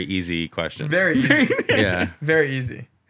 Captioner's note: laughter